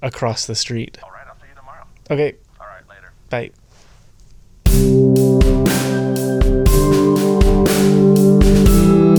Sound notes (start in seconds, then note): 1.2 over the phone; 4.7 uplifting music